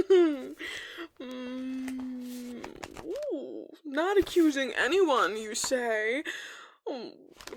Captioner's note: flips through papers